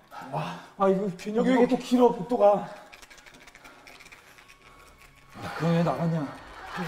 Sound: scared

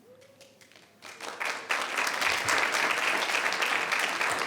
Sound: people clapping

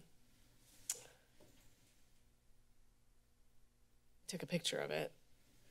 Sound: silence

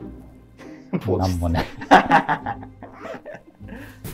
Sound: laughing

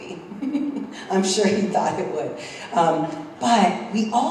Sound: laugh

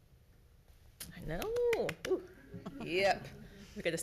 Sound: light clapping

